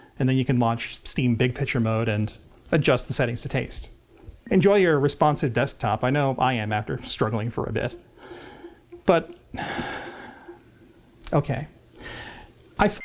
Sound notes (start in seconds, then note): 9.6 sigh